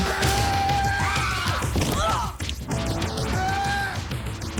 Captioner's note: yelling; screaming